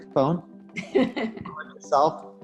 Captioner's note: laughing